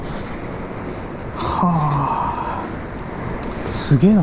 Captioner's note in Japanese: ため息